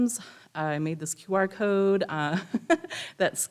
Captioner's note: laughs